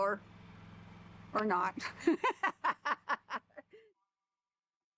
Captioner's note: laughs